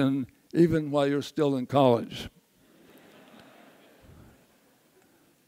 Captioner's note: audience laughs